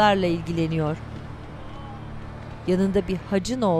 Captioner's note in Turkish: İnleme sesleri